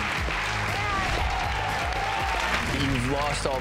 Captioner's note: cheering; dramatic music; applause